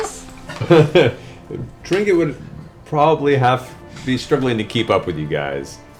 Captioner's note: chuckles